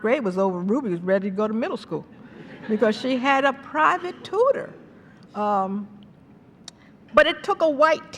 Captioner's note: laughter